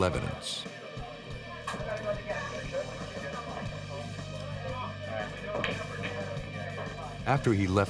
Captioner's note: chatter